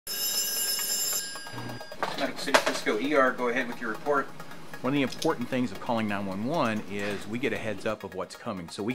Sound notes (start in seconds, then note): 0.0 phone ringing